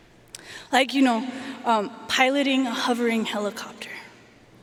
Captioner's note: none